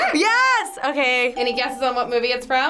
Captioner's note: bell rings